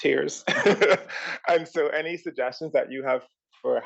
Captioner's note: laugh